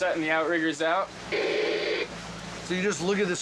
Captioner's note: static white noise